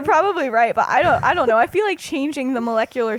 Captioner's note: laughs